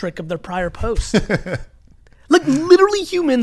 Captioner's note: laughs